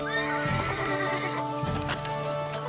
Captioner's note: horse whinnies